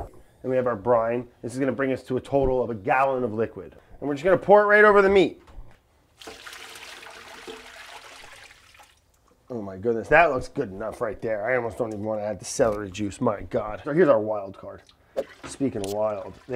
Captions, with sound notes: And we have our brine. This is gonna bring us to a total of a gallon of liquid, and we're just gonna pour it right over the meat. [brine pouring] Oh my goodness. That looks good enough right there. I almost don't even want to add the celery juice, my god. So here's our wild card, speakin' of wild. [juice trickling]